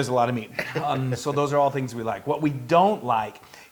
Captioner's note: laugh